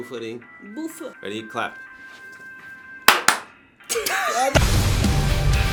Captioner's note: very unsynchronised claps